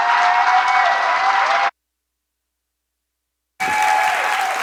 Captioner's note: cheers and applause